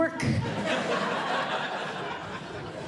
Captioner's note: audience Laughing